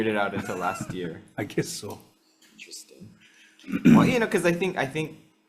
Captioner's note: chuckles